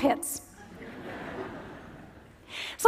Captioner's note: laughter